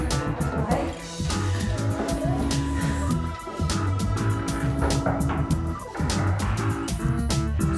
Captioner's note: contestants chattering; knuckles knocking